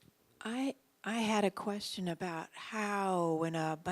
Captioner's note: voiceover